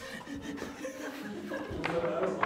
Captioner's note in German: Lachen